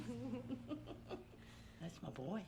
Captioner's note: laughter